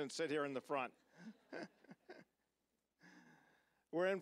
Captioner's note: all laughing